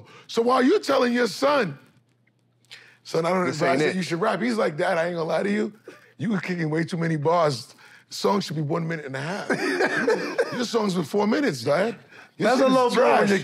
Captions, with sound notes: So while you tellin' your son... "Son, I don't advise that you should rap," He's like, "Dad, I ain't gonna lie to you, "you were kickin' way too many bars. Songs should be one minute and a half." - [chuckles] - "Your songs were four minutes, Dad. This thing's trash." - That's a low blow